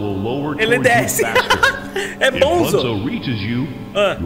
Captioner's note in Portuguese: risos